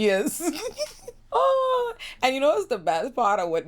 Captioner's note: laughs